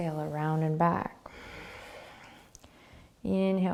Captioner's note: exhaling